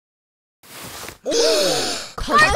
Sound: gasping

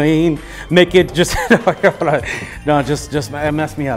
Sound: laughs

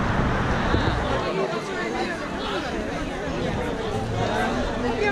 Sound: crowd chattering

